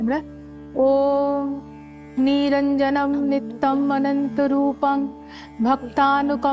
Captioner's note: chanting